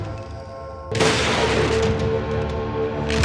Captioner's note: gun fires; rifle clicks